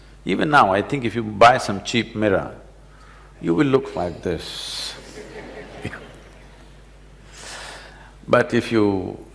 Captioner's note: laughter